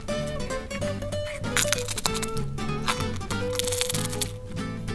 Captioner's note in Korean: 바스러지는 소리